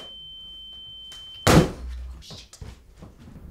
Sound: balloon pops

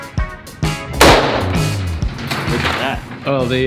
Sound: gun firing

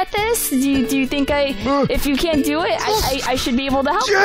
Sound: Vinny grunts

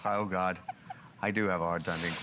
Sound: laughter

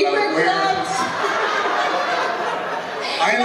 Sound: laughter

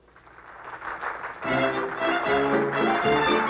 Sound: applause

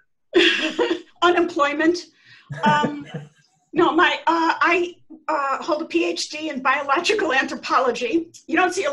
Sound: laughter

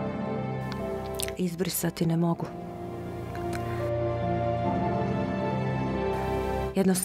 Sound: woman speaking in foreign language

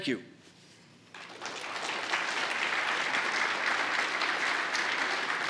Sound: applause

